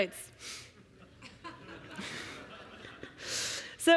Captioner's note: laughter